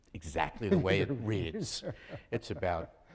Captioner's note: laughing